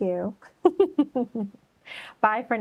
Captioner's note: laughs